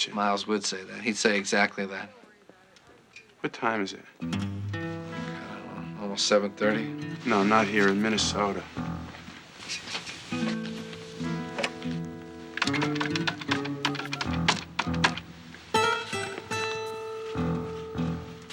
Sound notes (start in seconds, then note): 12.4 dialing; 16.9 ringing